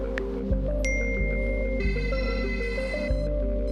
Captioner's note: message alert chimes